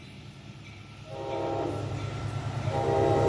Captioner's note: horn